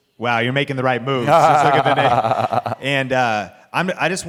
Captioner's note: Patrick laughs